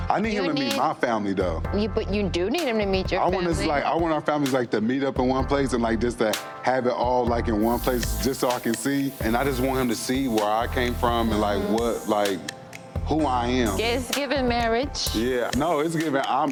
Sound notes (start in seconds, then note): 5.4 warm smooth music; 12.3 mmhmms; 16.0 warm smooth music